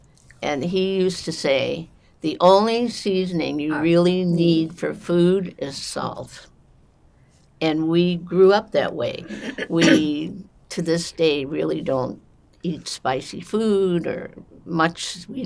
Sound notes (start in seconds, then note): 9.2 clears throat